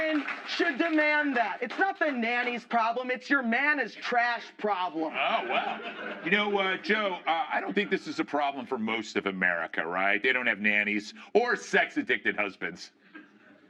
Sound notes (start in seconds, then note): 5.2 laughter